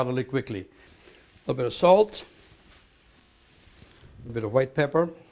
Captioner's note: sizzling